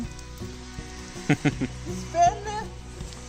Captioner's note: laughs in a stupid way